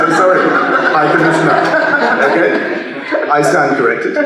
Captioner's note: laugh